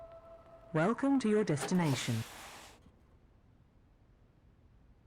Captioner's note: car